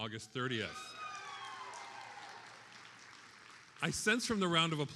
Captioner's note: attendees applauding